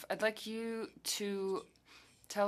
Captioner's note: speaking French